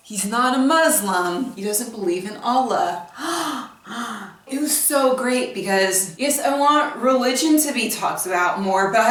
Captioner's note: gasps